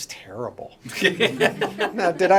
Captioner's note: laughter